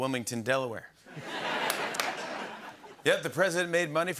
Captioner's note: laughter